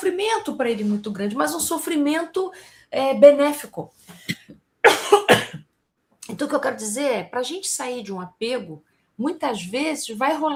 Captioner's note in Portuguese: tosse